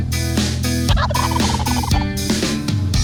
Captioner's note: upbeat music; turkey gobbling; upbeat music